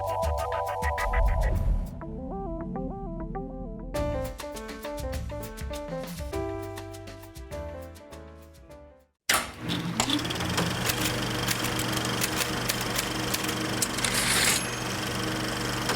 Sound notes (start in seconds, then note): 9.3 projector clicking; 11.4 typing; 13.7 typewriter ding